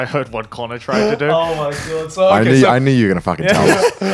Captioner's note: laughing